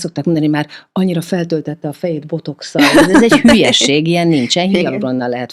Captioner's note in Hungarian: nevetés